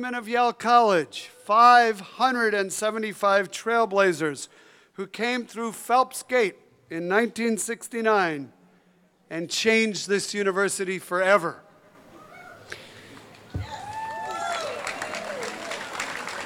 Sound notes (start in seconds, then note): 13.0 crowd applauds